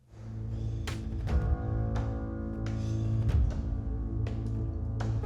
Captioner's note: footsteps thudding